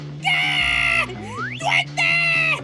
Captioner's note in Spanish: inhala